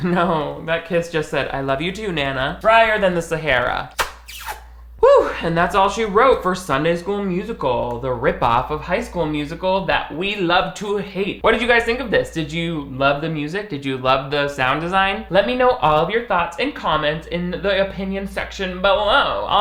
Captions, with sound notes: Oh, that kiss just said, I love you too, Nana. Drier than the Sahara. (lips puckering) Woo, and that's all she wrote for Sunday School Musical, the rip off of High School Musical that we love to hate. What did you guys think of this? Did you love the music? Did you love the sound design? Let me know all of your thoughts and comments in the opinion section below.